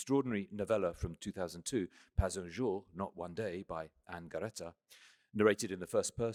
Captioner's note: french